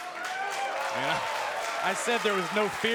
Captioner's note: crowd cheers and claps